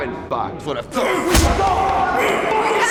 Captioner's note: Bailey grunts and punches